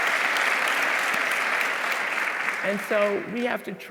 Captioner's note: audience applauding